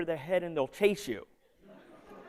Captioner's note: laughter